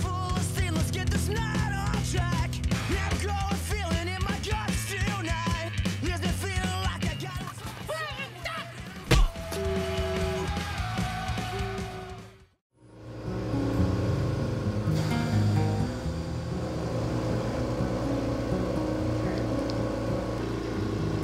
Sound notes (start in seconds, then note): 0.1 rock Music Playing; 9.1 man Shrieking; 14.5 oxygen Machine Compressor